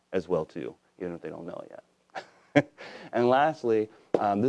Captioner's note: laughs